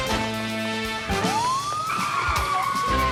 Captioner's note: upbeat music; siren wailing